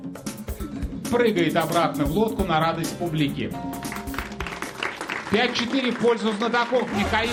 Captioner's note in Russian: аплодисменты